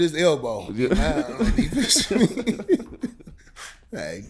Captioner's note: laughing